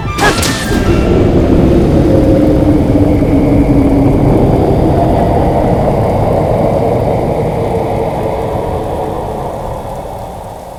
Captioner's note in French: cri de Miz'Kyosia